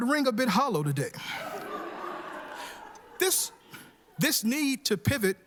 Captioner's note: laughter